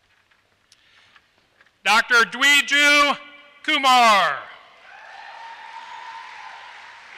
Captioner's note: applause